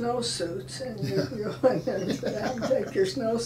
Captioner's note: laughing